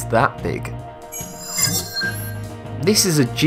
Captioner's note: sharp chiming